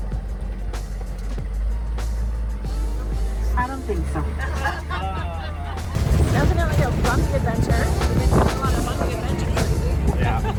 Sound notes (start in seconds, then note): 4.0 people in car laugh; 9.6 laughs